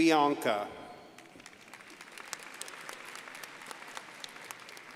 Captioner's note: crowd applauding